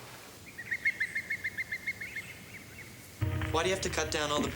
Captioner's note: birds chirping